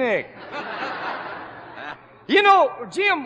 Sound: laughter

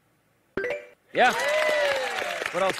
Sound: bell chimes

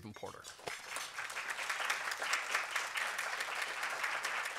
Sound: applause

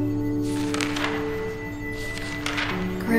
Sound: pages turning

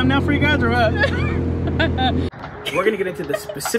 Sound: laughs

